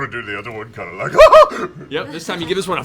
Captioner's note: giggles